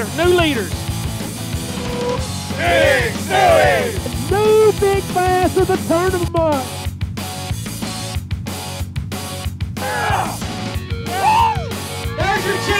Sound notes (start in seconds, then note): 2.5 crowd